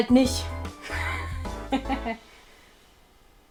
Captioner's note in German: lacht